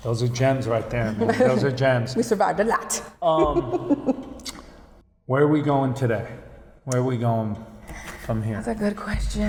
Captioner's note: laughing